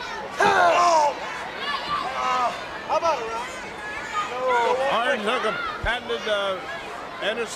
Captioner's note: crowd cheering